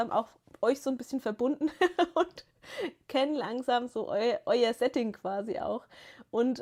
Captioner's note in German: gelächter